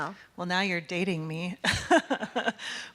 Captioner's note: laughing